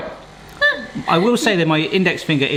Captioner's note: laughs